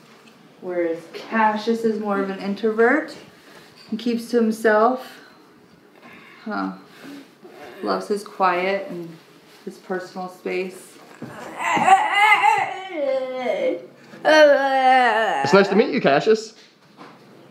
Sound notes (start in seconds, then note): 12.2 vocalizes